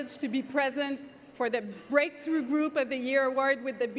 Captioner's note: speaking French